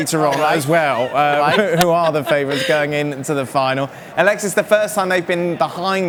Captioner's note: laughter